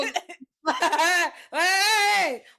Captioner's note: laughing